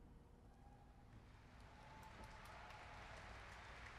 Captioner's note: applause